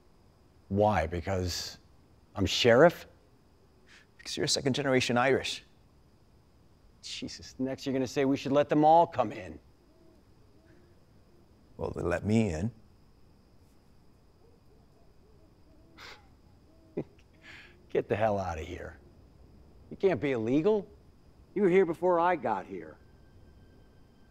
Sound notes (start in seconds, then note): 16.9 laughter